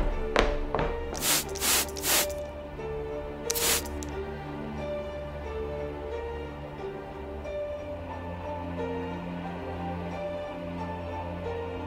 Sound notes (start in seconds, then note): 1.1 footsteps; 1.1 spraying mist; 8.1 mysterious music continues